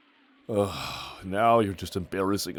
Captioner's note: disappointed sigh